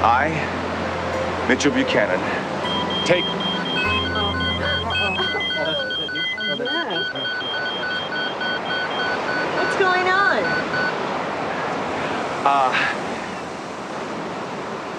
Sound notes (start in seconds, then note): 3.4 beeping